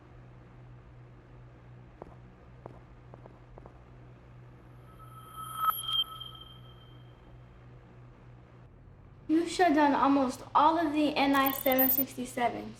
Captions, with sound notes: (technological ringing) - You've shut down almost all of the NI-767's.